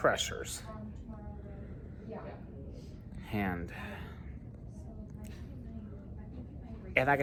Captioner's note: Students at Purdue Fort Wayne's Neff Hall chattering